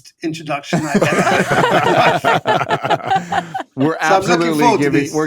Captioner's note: all laughing